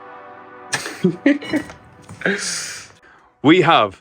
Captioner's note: chuckle